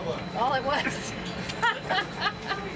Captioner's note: laughs